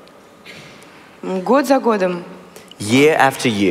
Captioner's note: foreign Language